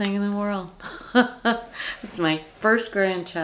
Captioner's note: Lottie's grandma laughing